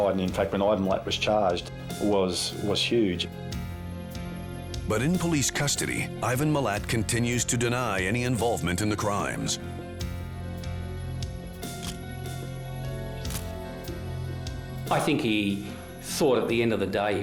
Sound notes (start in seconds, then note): 13.3 camera shutter click